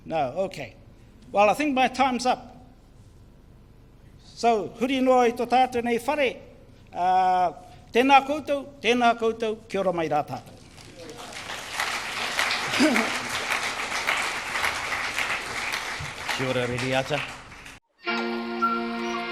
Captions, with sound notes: No, okay well I think my time's up. So [Foreign Language]. (audience applause) - Kia ora, Rereata.